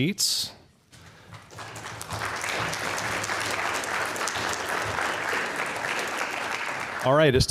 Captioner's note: applause